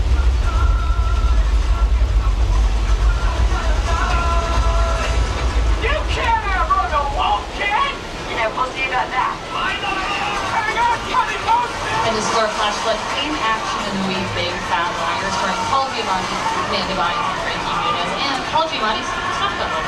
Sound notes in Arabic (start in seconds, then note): 0.1 موسيقى خفيفة; 9.6 شخص يصرخ